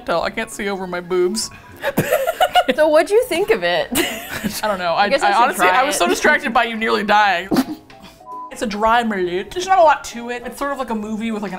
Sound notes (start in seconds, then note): 1.3 laughs; 7.4 coughs